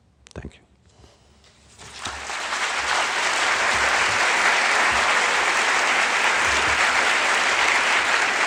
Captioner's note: applause